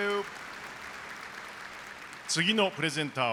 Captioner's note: applause